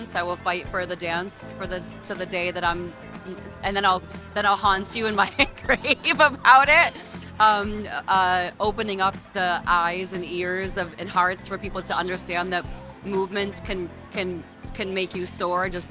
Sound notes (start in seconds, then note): 5.0 laughing